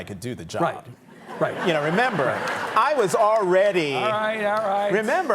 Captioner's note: audience laughing